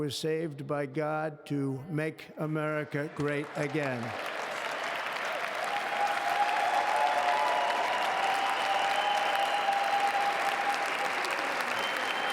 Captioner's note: applause